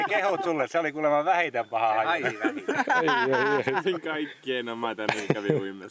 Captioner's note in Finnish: naurua; naurua